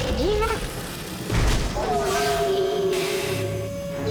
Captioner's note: groaning